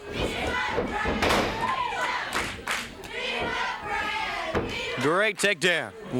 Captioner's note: crowd chants "Beat him up, Brad, beat him up"